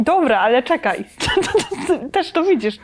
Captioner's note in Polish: śmiech